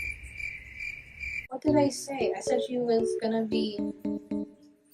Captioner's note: crickets chirp